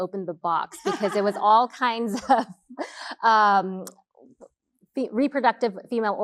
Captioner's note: laughing